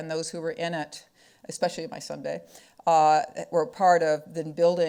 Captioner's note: speaking foreign language